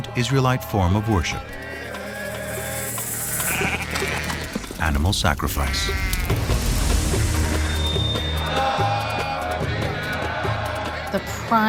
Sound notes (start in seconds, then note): 5.6 goat bleating; 7.2 chanting